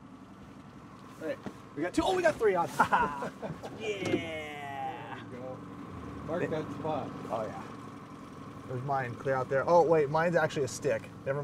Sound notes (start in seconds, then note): 4.5 chuckling